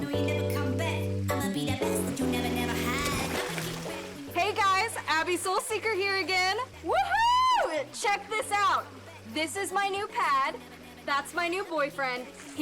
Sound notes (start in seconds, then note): 3.4 water splashes